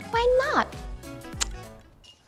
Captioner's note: mwah